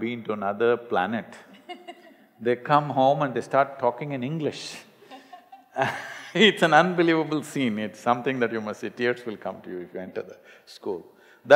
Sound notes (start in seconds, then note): 1.4 Manisha Koirala laughs; 5.0 both laugh